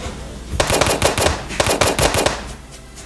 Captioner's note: gun shots